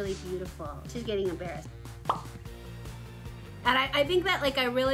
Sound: air pops

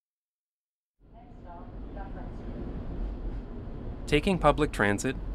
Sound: streetcar sounds

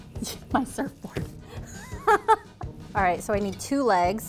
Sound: laughs

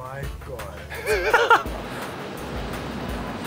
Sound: laughing

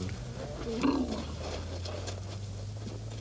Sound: elephant trumpets

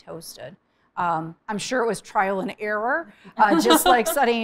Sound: laughing

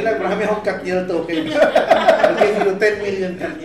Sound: laughs

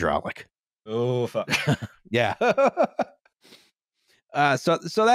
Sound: laughs

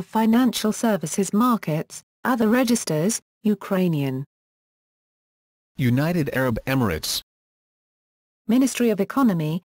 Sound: Ukrainian; Ukrainian

